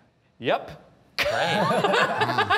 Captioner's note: judges chuckling